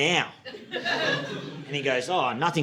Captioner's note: audience laughing